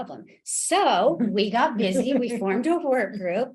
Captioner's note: laughs